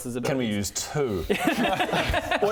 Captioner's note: perseverant laughter